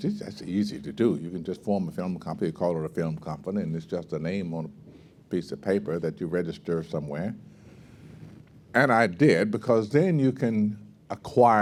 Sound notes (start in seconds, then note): none